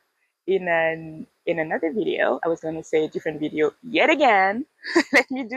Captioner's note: laughs